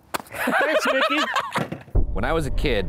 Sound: sings triumphant tune; laughs

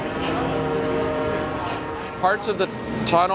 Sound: whirling noise

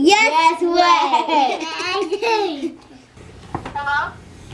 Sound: laughs

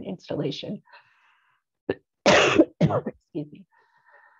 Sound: coughs

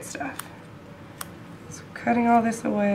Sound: clipping sounds

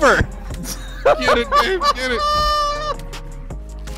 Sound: laughter

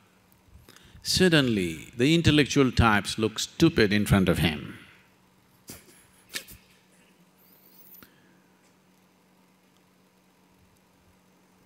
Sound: laughs

